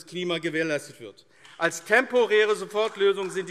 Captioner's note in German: Beifall AfD